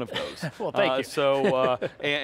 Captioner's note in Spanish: risas